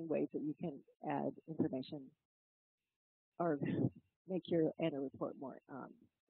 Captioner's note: laugh